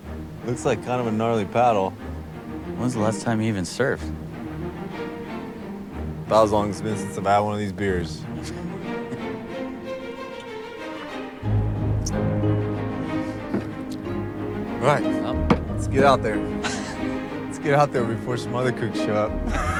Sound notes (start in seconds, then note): 8.3 Dayne chuckling; 16.6 Dayne chuckling